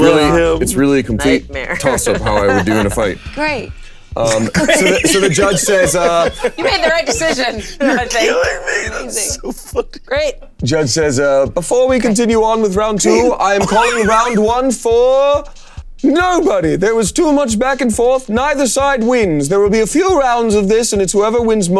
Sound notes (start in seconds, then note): 4.2 players laughing